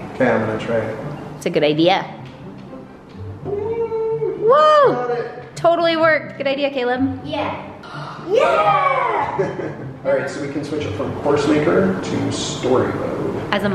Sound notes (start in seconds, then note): 8.3 laughs